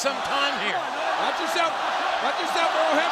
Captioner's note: audience chanting